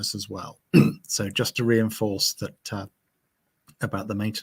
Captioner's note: clears throat